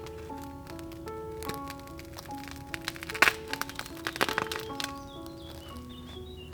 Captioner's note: bread cracks and crunches